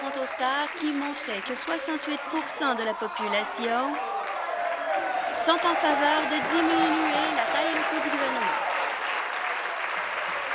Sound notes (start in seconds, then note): 1.5 applause